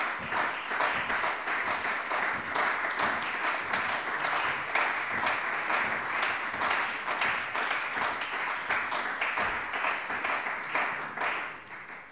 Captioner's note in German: Beifall bei der CDU